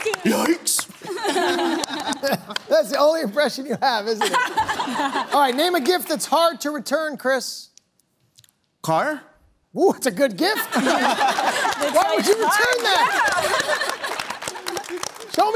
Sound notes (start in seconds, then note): 0.7 Scooby voice; 4.1 laughter; 10.5 laughter